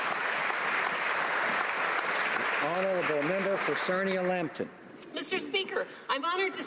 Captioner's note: applause